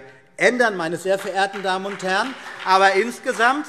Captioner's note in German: Beifall BÜNDNIS 90/DIE GRÜNEN und vereinzelt CDU